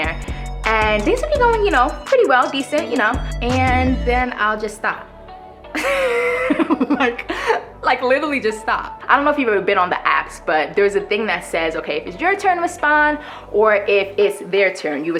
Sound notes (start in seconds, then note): 5.8 laughs